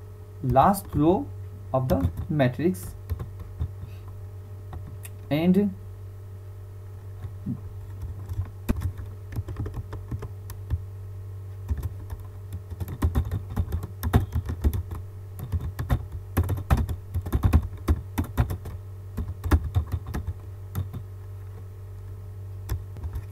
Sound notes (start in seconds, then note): 6.5 typing Sound